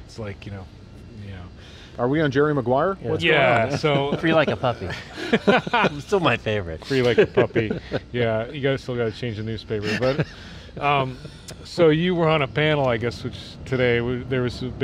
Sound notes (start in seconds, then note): 3.5 laughter; 5.7 laughing